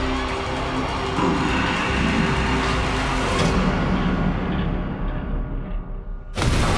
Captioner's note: gulps